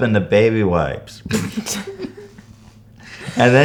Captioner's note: incredibly embarrassed laughter